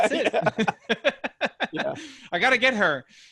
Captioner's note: laughs